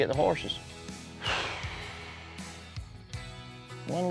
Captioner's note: exhales